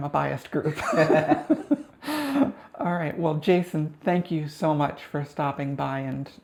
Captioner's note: both Laughing